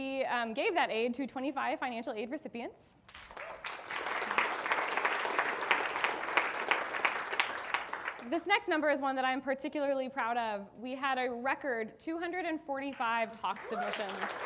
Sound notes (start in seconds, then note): 3.1 audience applauding